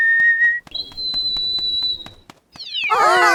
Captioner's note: chirping; loud, high-pitched whistling; all exclaim